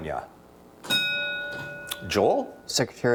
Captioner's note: bell dings